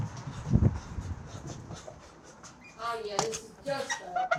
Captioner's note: guy pants